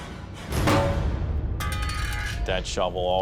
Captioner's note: clanking